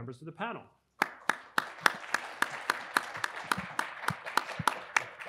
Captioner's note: audience applauding